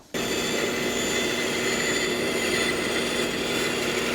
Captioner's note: machine cutting